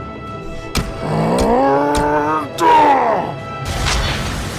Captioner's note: Knuckles grunts